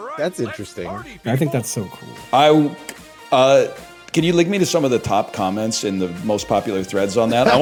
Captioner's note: laughs